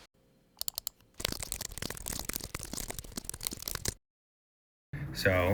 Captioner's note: furious typing